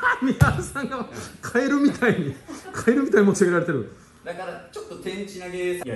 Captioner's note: laughs